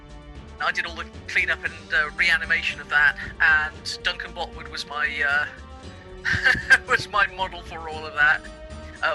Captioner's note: laughs